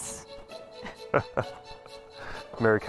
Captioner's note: Carl laughing